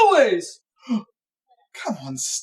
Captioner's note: gasp